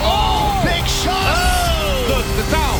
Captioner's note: end of round air horn blares